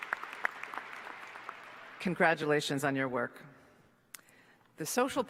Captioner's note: applause